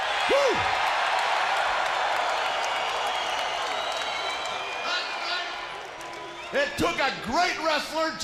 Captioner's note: crowd cheering